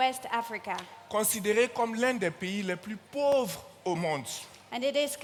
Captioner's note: continues in French